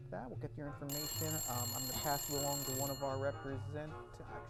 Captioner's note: phone rings